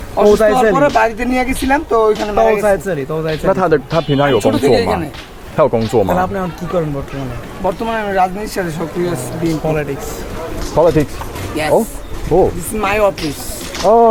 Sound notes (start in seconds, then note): 0.0 local language; 6.4 local language